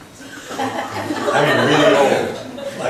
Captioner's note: laughs